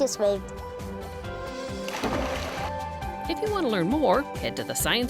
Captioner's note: splash